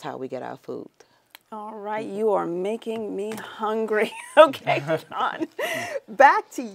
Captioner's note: laughs